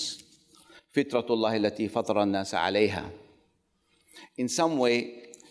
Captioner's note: speaks foreign language